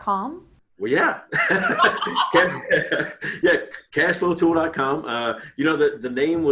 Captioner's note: laughing